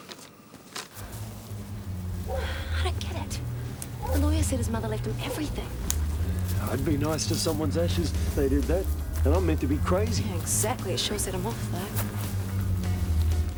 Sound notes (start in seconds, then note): 0.1 Dave sighs; 2.2 sighs; 13.3 upbeat saxophone music